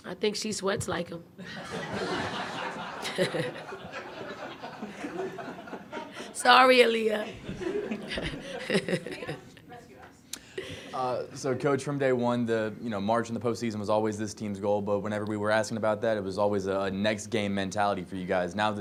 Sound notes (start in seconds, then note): 1.4 crowd laughs; 7.2 laughs